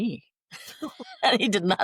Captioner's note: laughter